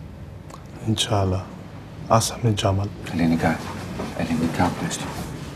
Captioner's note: speaks in arabic